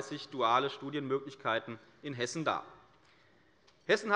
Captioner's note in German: none